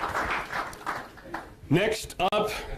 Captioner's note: applause